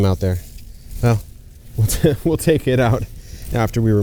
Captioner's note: chuckles